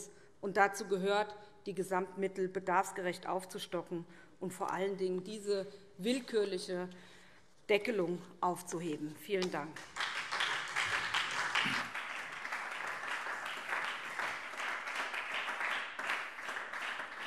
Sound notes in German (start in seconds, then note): 10.2 Beifall SPD